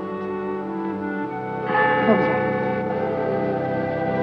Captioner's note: bell Tolling